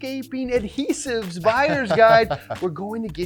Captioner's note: laughing